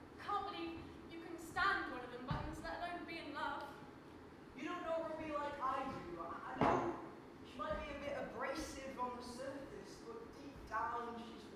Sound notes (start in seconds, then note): none